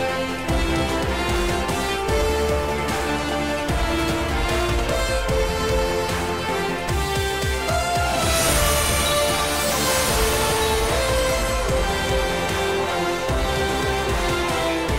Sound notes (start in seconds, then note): 7.8 magical sound